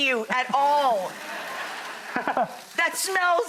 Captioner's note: laughing